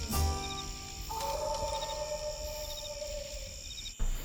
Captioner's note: wolf howling